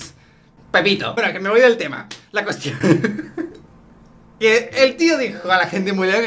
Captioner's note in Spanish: risas